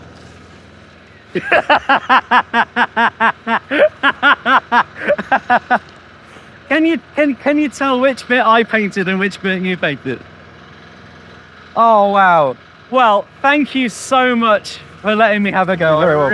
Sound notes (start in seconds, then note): 1.3 laughing